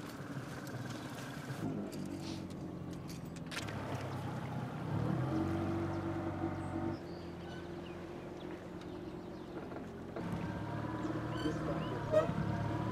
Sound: boat engine running

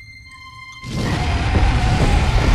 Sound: roars

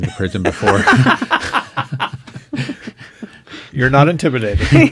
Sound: laughing

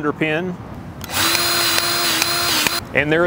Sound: grease gun revving

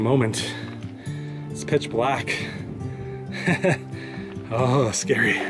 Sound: chuckles

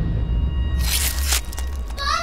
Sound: visceral slicing

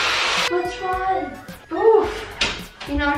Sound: child crying

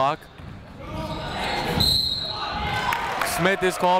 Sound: whistle

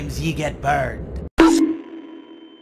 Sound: bonk

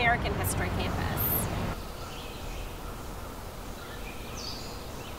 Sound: birds chirping

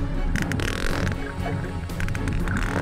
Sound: rapid clicking

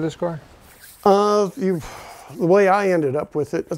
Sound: sighing

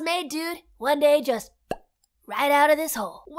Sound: lip popping

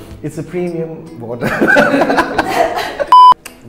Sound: laughs

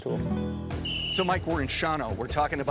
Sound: whistle tweets

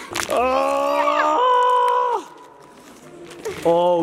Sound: grunts

